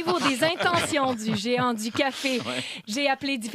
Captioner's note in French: rires